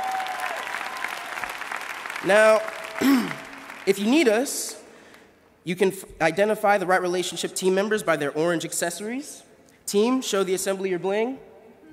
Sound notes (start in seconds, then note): 7.8 applause